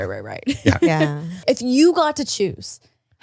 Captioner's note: laughs